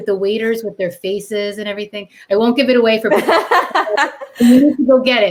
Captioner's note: laughter